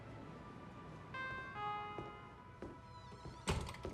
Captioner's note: sensor beeps